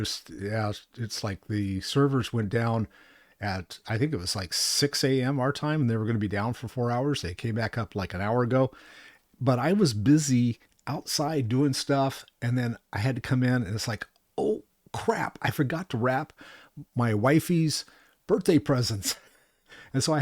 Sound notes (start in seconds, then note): none